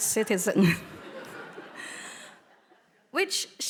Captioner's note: audience laughing